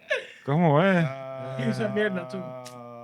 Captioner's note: non-english Speech